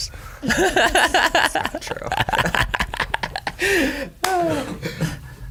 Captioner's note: laugh